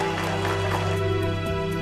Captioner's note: crowd cheering